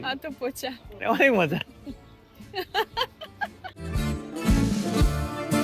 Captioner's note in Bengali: সশব্দ হাসি